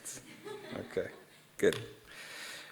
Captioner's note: audience laughing